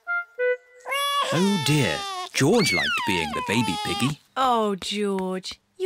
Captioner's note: bawls